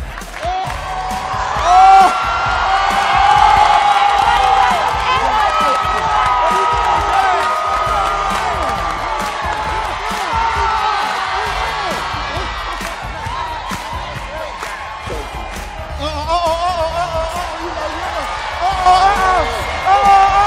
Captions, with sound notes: Yeah! Oh! I don't know why you guys are seeing. [applause] Oh, oh, oh! Oh, oh, oh! Oh, oh, oh!